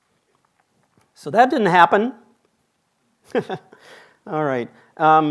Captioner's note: chuckles